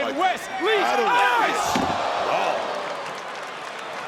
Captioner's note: audience cheering